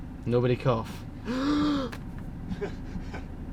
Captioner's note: inhaling deeply; laughing